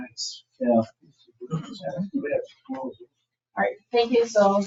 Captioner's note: people chattering